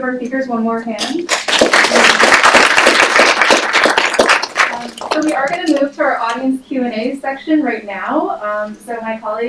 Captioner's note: applause